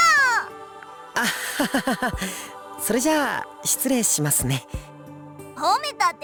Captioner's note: awkward laugh